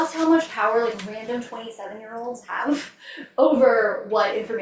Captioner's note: laughs